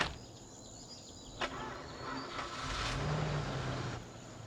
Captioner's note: car starting